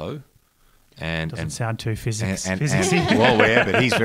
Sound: laughs

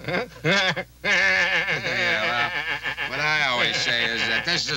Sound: Homer laughing

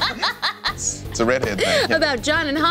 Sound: laughing

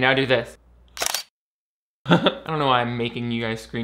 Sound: camera shutters

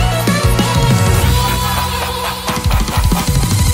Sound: evil laugh

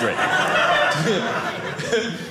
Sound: audience laughing

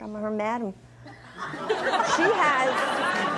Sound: audience laughs

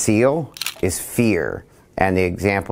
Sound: camera clicks

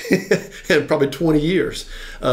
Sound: client laughs

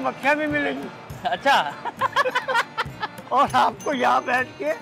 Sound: laugh

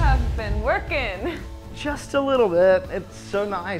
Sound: laughs

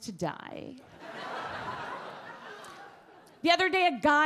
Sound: audience laugh

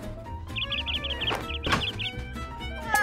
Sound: bird tweeting

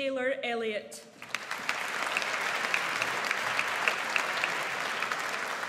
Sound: audience applauds

